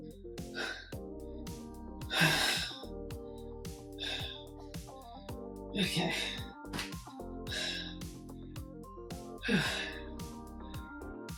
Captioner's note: tired breathing